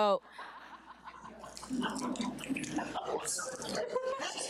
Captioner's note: audience laughing